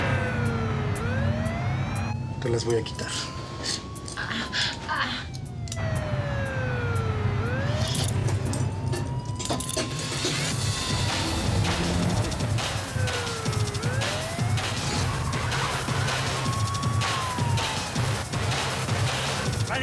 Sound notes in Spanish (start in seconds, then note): 4.2 quejidos de ella; 7.3 siguen sonando las sirenas; 14.7 sirenas y disparos